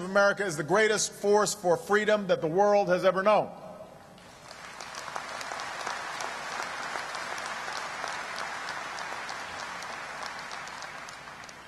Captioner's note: applause